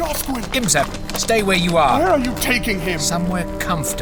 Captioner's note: pleading